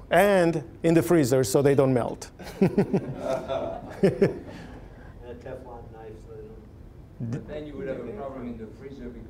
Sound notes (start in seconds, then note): 2.4 all laughing